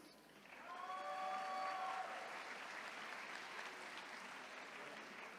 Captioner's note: attendees cheering